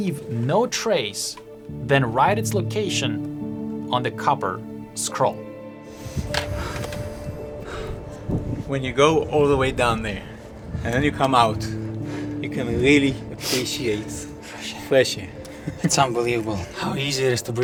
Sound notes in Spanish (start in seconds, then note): 13.1 exhala; 15.2 ríe